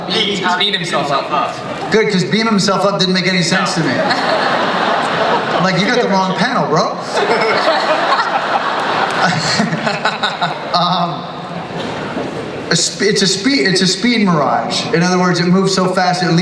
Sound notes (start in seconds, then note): 5.1 audience laughs